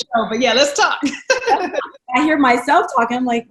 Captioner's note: laughs